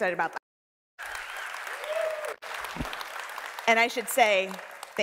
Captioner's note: audience cheering